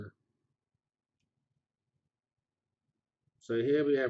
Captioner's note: pause